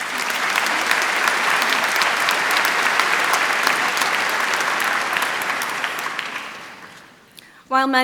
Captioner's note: applause